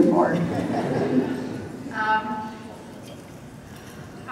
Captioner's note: laughter